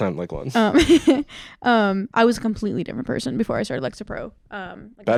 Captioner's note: laughs